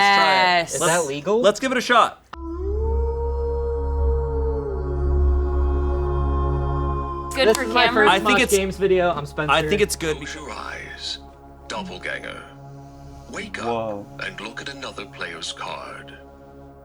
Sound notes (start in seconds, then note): 2.6 werewolf howling